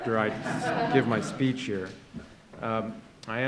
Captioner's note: laughter